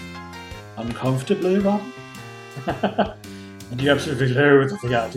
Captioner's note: laughs